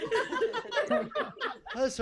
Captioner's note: laughing